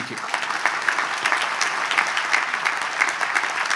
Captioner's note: audience applauds